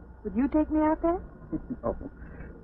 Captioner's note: laughing